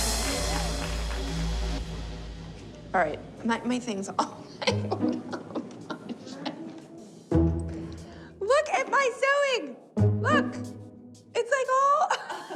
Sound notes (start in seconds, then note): 4.2 laughs; 12.0 laughter